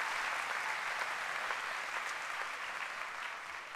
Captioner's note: applause